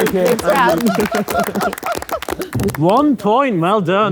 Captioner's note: crowd clapping